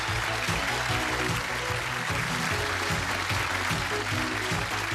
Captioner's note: applause